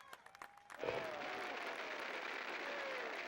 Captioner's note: applause